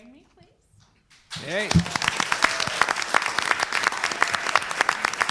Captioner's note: crowd applauds